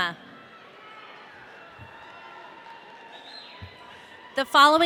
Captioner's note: audience cheering